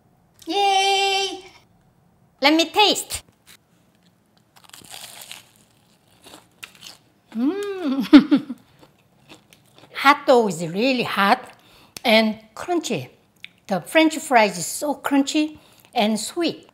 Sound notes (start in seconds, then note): 4.4 crunchy sound